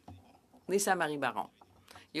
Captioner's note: speaking French